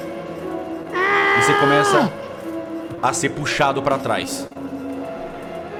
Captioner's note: screams in pain